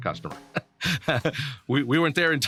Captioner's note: laughs